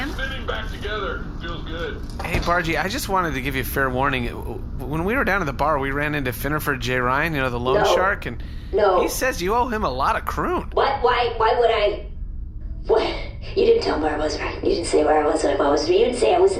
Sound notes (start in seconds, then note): 12.3 quietly, rushed